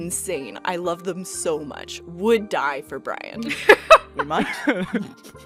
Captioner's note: laughter